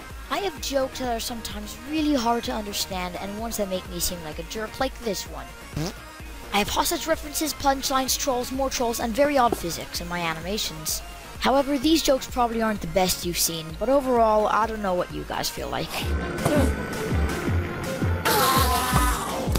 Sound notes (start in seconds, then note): 5.7 fart